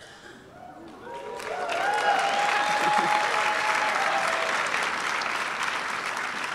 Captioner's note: audience clapping and cheering